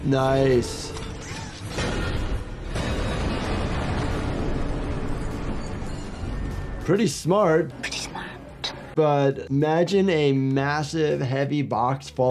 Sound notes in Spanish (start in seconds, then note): 1.6 caja chocando y golpeando